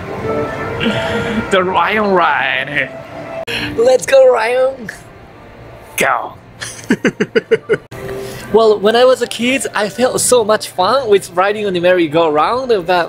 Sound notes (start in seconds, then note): 6.2 lion roar in Japanese